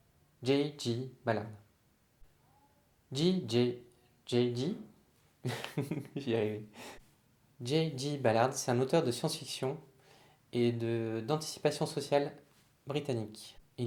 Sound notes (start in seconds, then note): 5.4 laughter